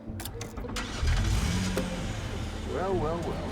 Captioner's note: engine starts